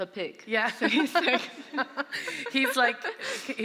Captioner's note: laughter